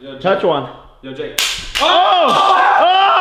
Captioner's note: snap